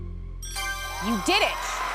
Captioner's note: ding